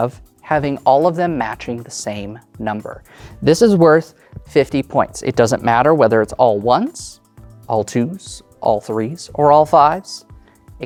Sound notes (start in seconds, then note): none